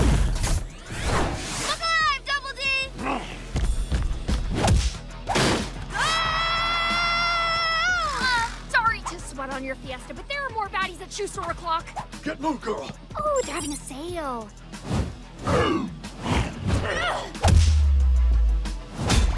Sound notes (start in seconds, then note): 2.9 grunts; 15.4 both grunt